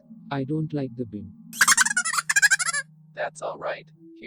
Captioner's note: laughter